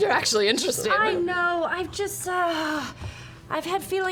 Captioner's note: groans